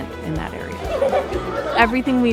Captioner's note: students laughing